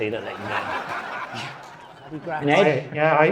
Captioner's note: audience laughing